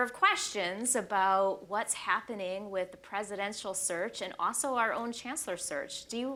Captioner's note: none